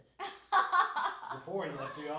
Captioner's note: laughing